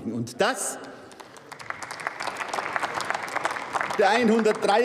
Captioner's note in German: Beifall bei der SPD, der LINKEN und dem BÜNDNIS 90/DIE GRÜNEN